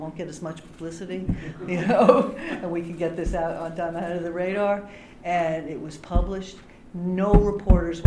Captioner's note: laughter